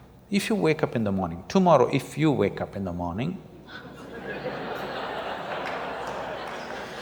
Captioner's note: laughter